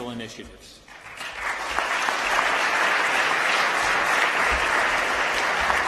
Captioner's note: applause